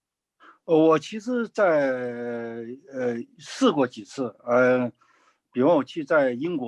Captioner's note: speaking in foreign language